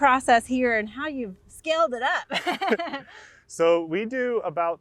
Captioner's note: laughing